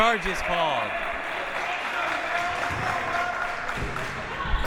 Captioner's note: clapping